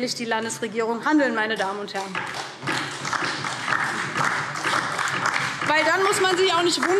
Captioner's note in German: Beifall DIE LINKE und SPD